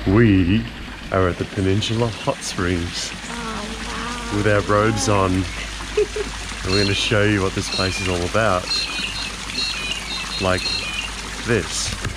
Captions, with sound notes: We are at the Peninsula Hot Springs. - Oh, wow. - With our robes on and we're gonna show you what this place is all about. (birds chirping) Like this.